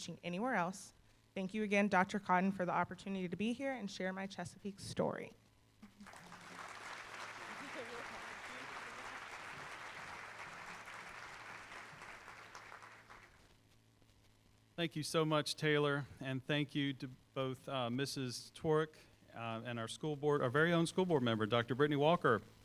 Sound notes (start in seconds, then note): 5.9 applause